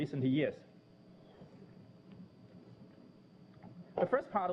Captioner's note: pause